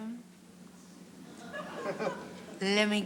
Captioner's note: audience laughs